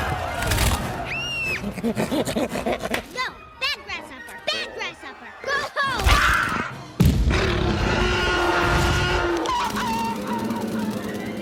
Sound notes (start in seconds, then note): 0.8 snarls; 1.0 screams; 7.3 roaring Louder; 7.3 roaring; 9.5 chuckles; 9.6 whining, Yelping